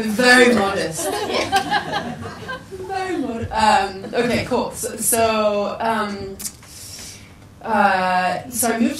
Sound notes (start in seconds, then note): 1.0 people laugh